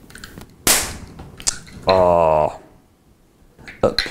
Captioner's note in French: explosion